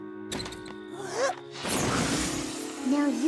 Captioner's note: inhales deeply; exhales sharply